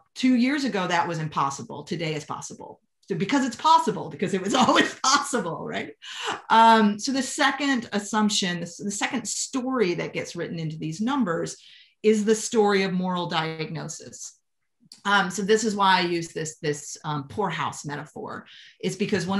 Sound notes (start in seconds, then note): 7.9 laughter